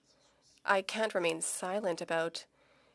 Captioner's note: speaking French